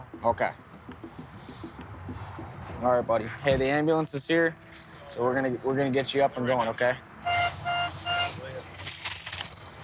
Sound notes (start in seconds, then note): 7.2 beeping